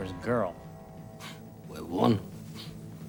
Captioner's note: speaks Spanish